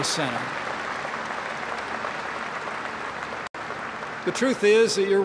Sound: applause

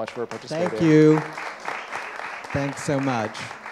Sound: audience applauds

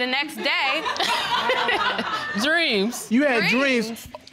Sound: audience laughing

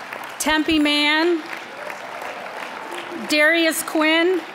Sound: applause

